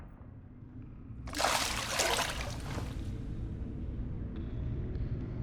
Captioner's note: liquid splashing